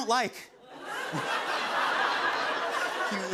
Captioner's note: laughter